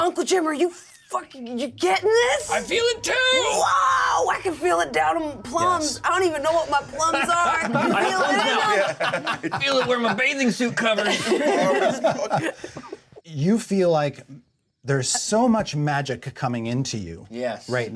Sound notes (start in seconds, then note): 7.1 laughter